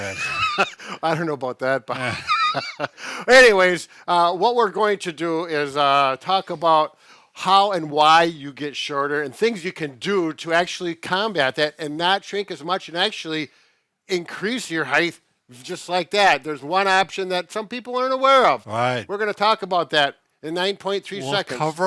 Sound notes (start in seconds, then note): 0.0 laughs